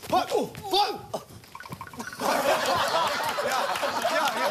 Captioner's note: step step step